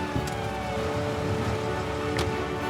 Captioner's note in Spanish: Sirenas